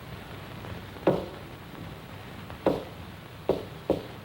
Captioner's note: knocking rhythm